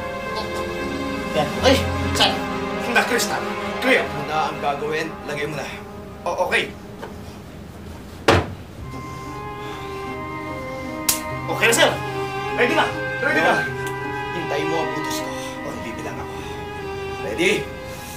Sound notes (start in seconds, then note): 6.1 stutters; 8.2 thuds